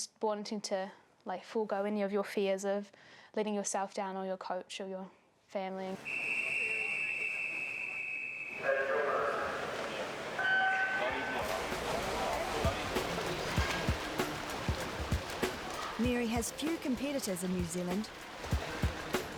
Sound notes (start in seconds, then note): 6.0 whistle; 10.2 starting klaxon